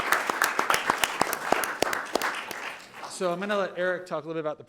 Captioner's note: audience applauding